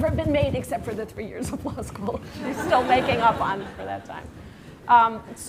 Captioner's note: laughter